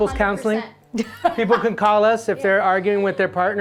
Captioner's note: laughs